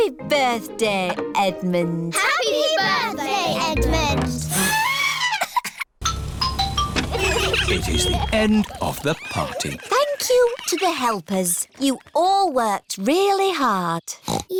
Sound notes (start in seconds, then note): 5.1 trumpets; 6.0 horns honking